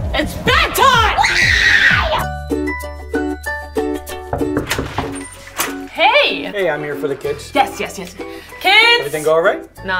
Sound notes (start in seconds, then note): 4.2 knock on door